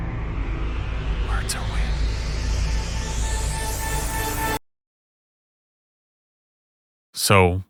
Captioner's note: whispred